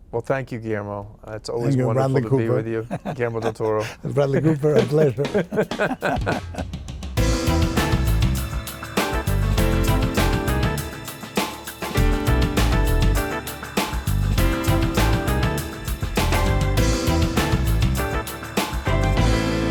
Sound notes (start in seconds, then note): 5.9 both laughing; 7.4 upbeat music; 16.9 upbeat music